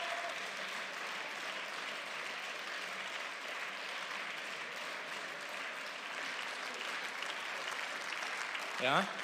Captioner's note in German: Beifall